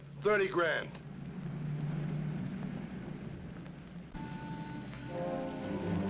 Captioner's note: car engine humming; tense, dramatic music